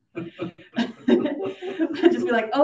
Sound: audience laughing

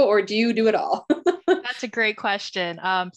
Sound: chuckles

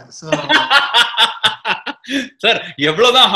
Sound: laughs

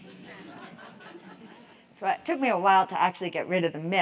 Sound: laugh

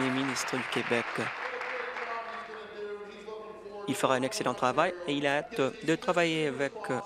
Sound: applause

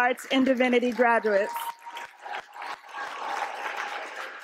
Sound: applause

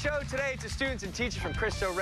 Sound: cheers and applause

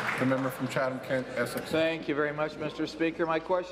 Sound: applause

